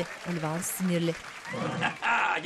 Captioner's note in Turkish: Gülme sesi